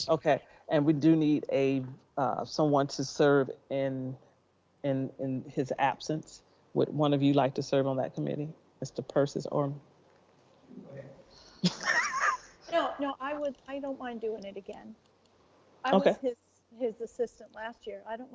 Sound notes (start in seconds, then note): 11.6 board laughing